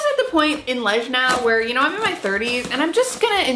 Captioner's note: scissors slicing